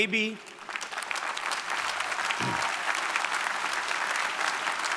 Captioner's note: audience clapping